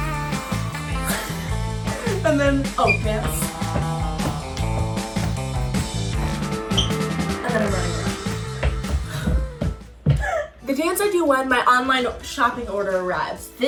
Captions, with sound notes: (laughs) And then, oh, dance. And then I'm running around. (footsteps thudding) The dance I do when my online shopping order arrives.